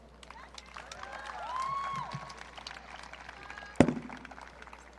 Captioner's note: audience cheering